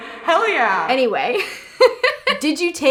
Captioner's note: laughs